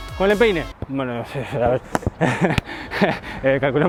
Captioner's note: laughs